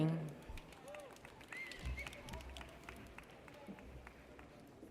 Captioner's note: audience cheers